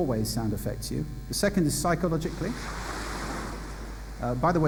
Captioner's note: wave sound